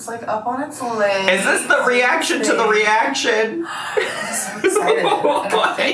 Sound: laughs

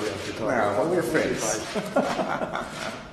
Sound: laughter

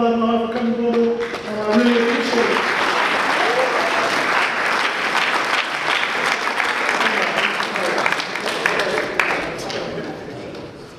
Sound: audience applause

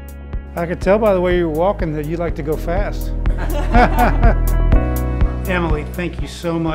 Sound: laughing

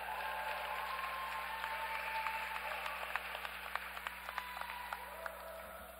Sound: applause

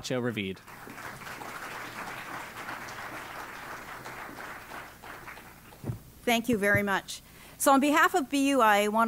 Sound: applause

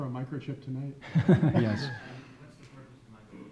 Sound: chuckles

